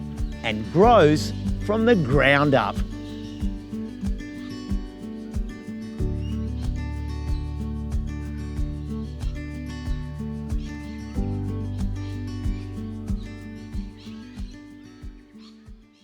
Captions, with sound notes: and grows from the ground up. [birds calling] [music fades]